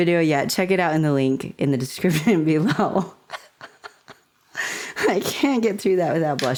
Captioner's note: laughter